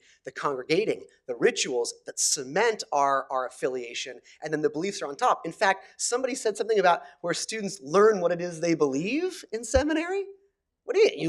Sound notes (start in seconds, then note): none